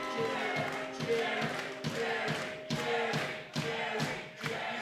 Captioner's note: crowd